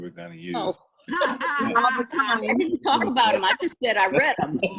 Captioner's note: everyone laughs